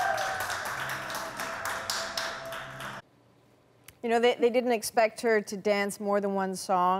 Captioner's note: applause